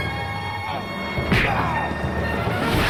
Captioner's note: punch